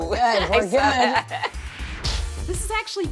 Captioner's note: both laugh